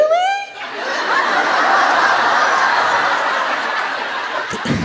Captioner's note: laughter